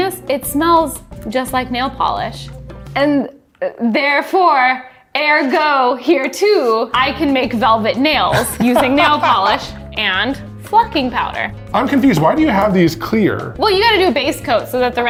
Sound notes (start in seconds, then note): 8.3 laughs